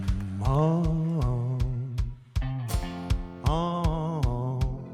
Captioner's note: vocalizing